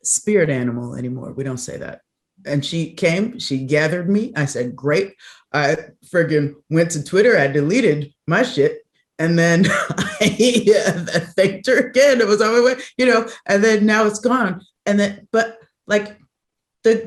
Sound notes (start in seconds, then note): 9.8 laughs